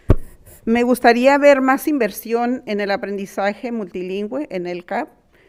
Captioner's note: speaking in foreign language